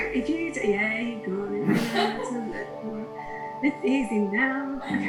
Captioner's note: laughing